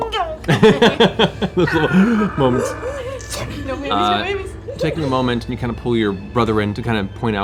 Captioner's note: laughing; gasps